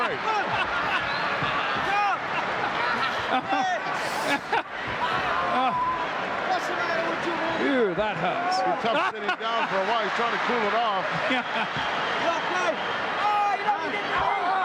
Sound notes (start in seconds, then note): 1.3 laughing; 11.2 laughing